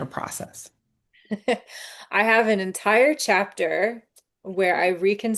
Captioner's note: chuckles